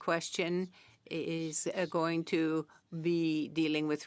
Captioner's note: speaking French